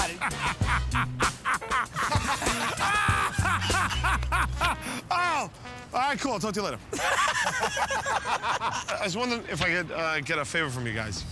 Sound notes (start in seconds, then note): 0.0 laughs; 6.9 laughter